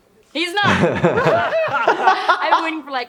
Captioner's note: laughing